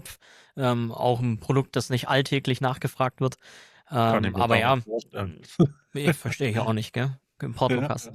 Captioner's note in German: gelächter